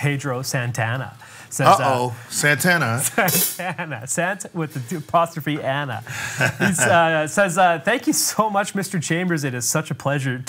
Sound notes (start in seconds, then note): 6.1 laughs